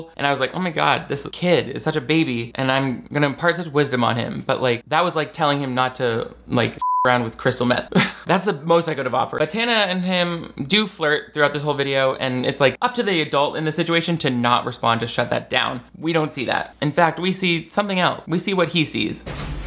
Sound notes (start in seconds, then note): 6.8 beep; 7.9 laugh